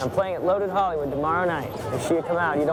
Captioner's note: none